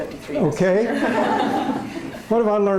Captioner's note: laughter